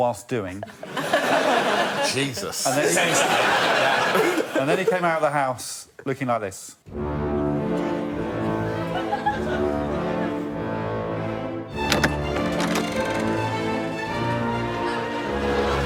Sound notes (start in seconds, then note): 0.6 laughter; 8.7 laughter